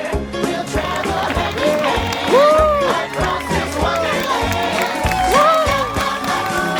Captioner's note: applause and cheers